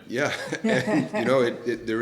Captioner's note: laughter